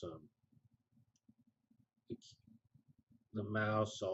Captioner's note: pause